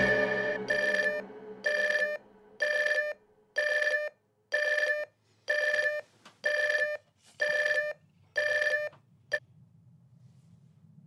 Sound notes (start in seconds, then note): 1.6 alarm